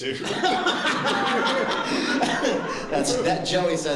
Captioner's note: laughter